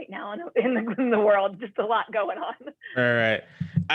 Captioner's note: laughter